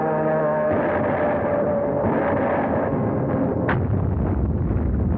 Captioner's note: artillery firing; explosion rumbles